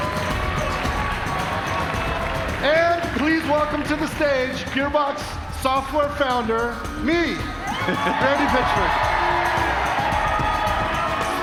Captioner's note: cheers and applause